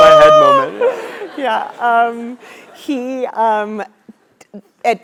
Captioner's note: laugh